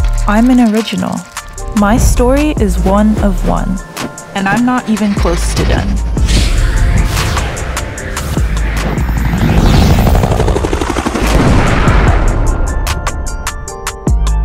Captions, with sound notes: I'm an original. My story is one-of-one. And I'm not even close to done. (helicopter whirring) (fire whooshing)